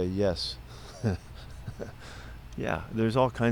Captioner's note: Pete laughs